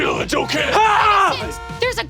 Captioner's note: Brennan screaming